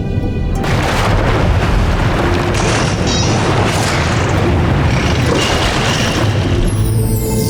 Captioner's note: squeaks & squawks; water splashing; majestic music playing